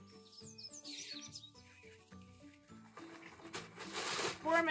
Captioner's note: birds chirping; plastic bag crinkling